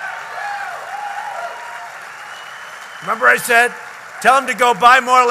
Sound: applause

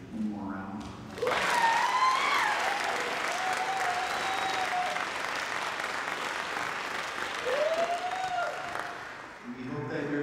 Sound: applause

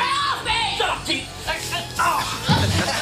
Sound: grunting; laughter

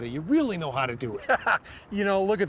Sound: laughter

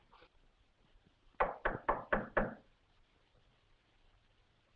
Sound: knocking at door

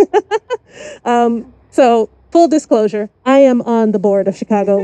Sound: laughs

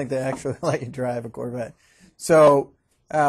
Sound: chuckling

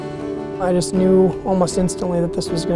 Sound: voiceover

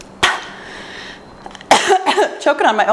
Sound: coughing

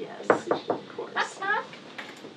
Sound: knocking

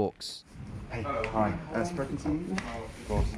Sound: speaking foreign language

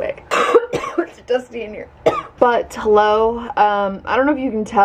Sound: coughs

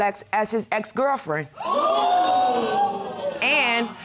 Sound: audience exclaiming

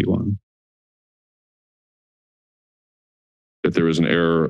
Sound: silence

